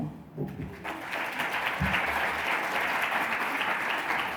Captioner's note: applause